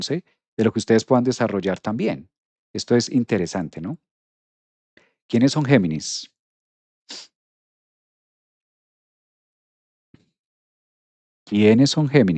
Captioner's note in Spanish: resoplido